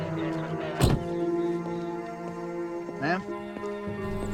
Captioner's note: car door thuds